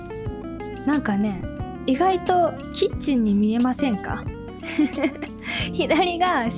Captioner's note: laughs